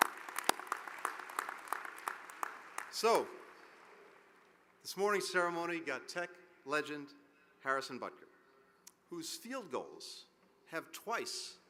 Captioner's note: applause